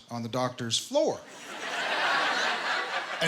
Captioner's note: laughter